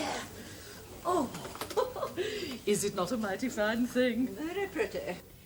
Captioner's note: chuckles